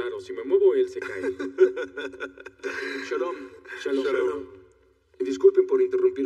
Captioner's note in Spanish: Ríe